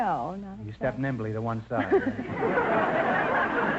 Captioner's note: laughs; audience laughter